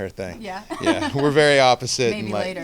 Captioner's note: laughing